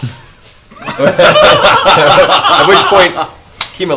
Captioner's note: all laugh